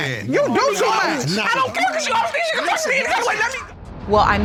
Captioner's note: hysterical shouting